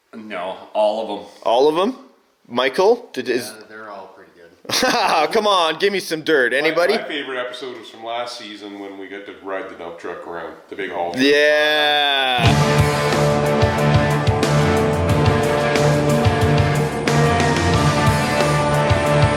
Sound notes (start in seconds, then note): 6.6 laughing; 12.4 upbeat action music